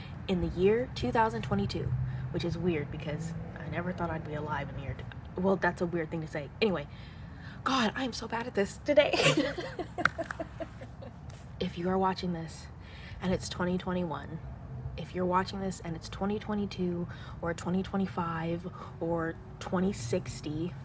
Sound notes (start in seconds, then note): 9.1 laugh